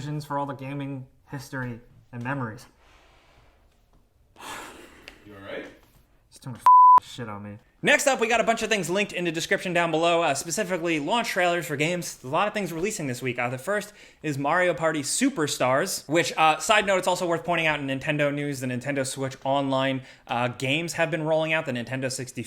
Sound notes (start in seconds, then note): 4.4 sighs; 6.6 beep